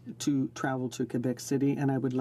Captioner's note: speaking in french